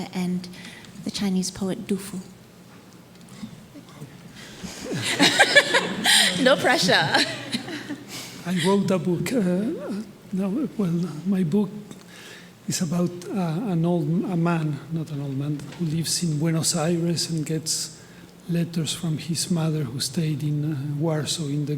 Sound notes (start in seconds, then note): 2.8 panelists laughing